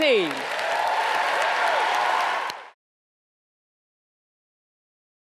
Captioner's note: audience cheers and applauds